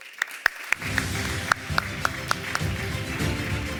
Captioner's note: applause